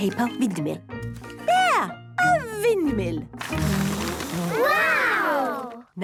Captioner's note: blows